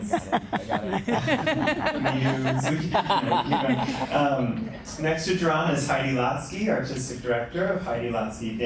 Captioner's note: laughter